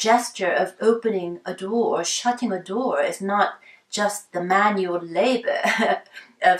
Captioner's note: chuckles